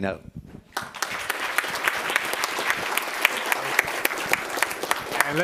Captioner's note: applause